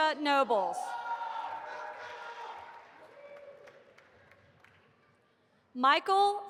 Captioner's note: audience applauding and cheering